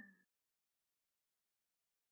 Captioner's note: silence